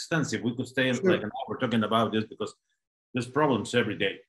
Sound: audio blurs

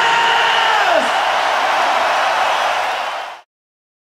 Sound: audience cheers

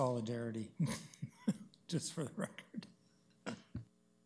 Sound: chuckles

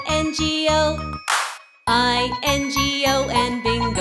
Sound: claps

